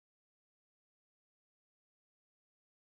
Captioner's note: none